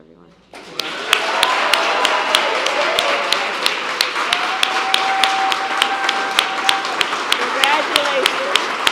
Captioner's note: applause